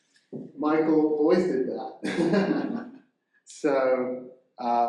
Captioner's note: chuckles